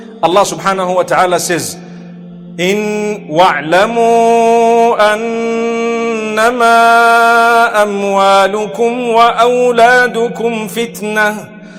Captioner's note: arabic recitation